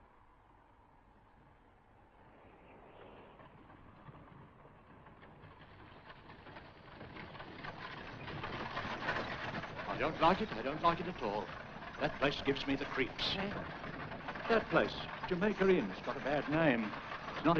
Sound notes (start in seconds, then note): 4.9 carriage rattles